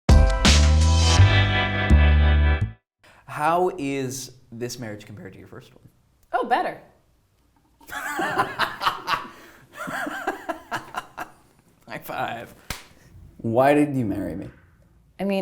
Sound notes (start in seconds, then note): 0.1 upbeat music; 8.0 laughing